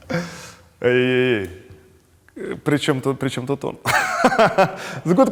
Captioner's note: laughs